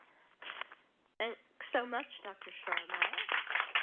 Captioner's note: applause